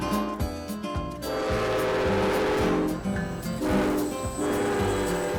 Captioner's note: train honking